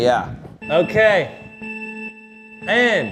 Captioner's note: countdown beeps